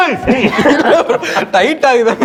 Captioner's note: laughs